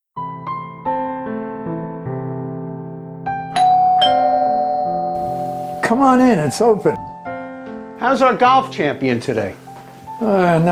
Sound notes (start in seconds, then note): 0.4 soft music; 3.5 door bell ringing